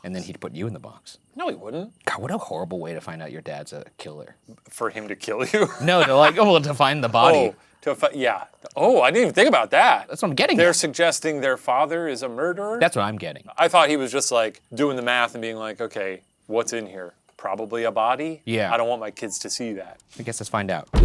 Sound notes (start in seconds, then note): 5.3 laughs